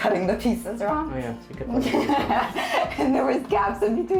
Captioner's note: laughter